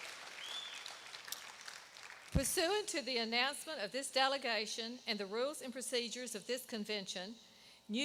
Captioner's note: applause